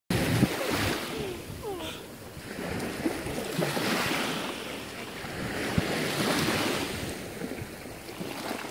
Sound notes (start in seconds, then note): 0.1 sound of ocean waves crashing